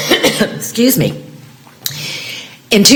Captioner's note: cough